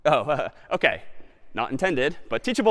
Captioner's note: laughs